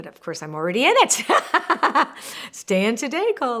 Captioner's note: laughing